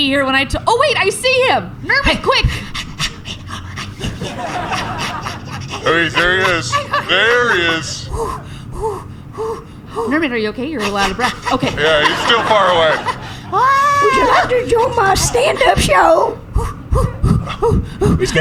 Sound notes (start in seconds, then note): 14.1 breathily, still running; 17.8 pauses to breathe again